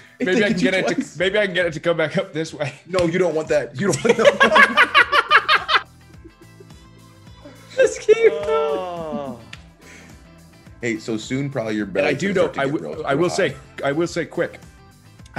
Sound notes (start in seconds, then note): 4.0 laugh